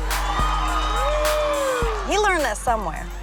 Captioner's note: crowd cheering